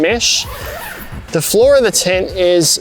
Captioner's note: zips